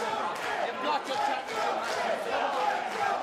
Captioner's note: fans chanting